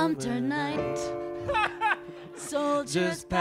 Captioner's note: man laughs